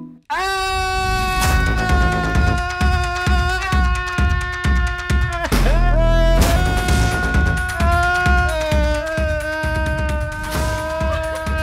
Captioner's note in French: long cri et musique techno